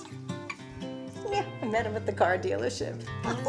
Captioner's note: laughs